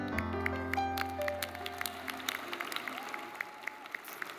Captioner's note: audience applauds